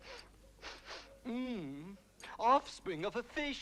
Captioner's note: Rothrar sniffing; Rothrar groans